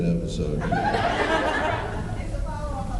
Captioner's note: laughs